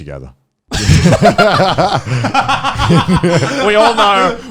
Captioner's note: laughing